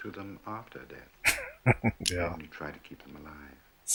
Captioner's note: chuckling